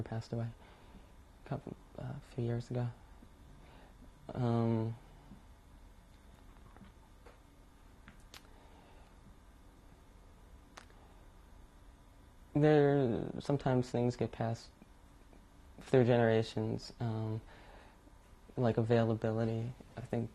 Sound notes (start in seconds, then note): 2.9 pauses for 10 seconds